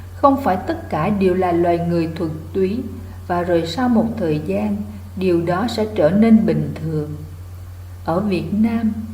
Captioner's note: Vietnamese